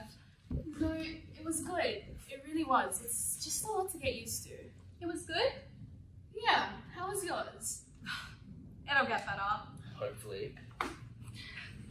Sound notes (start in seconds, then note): 8.0 sighs